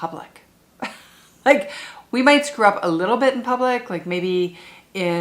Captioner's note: chuckles